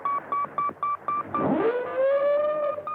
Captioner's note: siren blaring